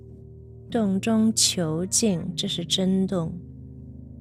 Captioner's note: speaking Chinese